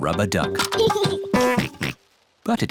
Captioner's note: giggles and oinks